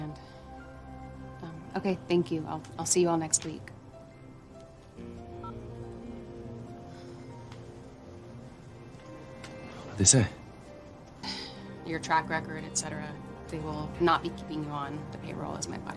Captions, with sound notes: Um, okay, thank you. I'll see you all next t week. [phone beeps] [mellow music] What'd they say? they will not be keeping you on the payroll a as my bodygua.